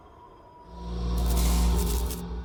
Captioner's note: electric sound